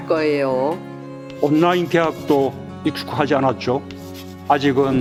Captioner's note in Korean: 칠판에 분필로 적는 소리